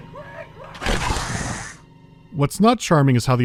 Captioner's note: alien huffing